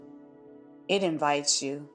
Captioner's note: pause